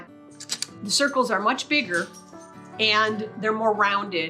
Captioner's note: camera shutter clicks